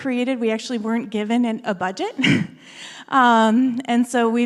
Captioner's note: laughs